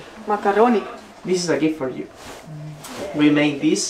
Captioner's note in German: auf Englisch